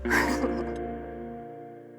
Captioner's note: chuckles